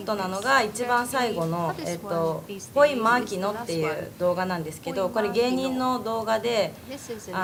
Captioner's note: japanese